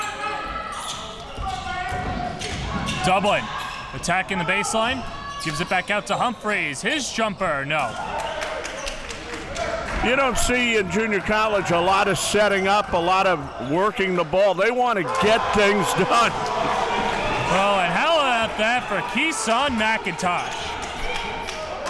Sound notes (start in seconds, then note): 1.1 crowd cheering; 16.8 crowd cheering